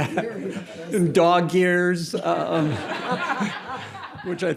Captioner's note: audience laughing